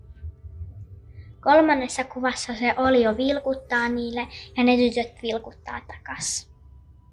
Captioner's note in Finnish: lapsen ääni